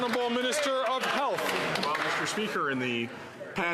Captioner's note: some Applause